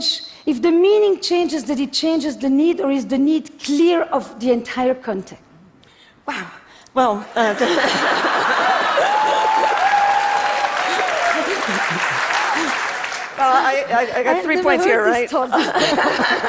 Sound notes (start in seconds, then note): 7.4 Laughter; 7.4 笑聲; 8.6 Applause; 8.6 掌聲